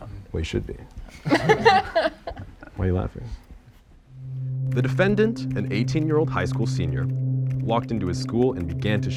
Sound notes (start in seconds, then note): 1.1 participants laugh